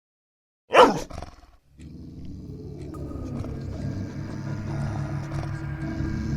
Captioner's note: dog barking; dog growling